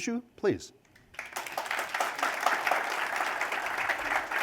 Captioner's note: applause